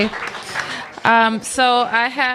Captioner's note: applause